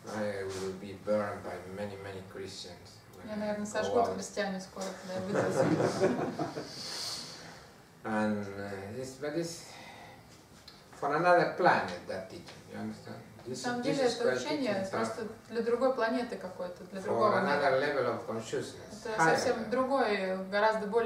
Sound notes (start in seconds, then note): 5.1 hahaha